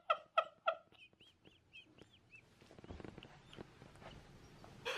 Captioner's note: laughs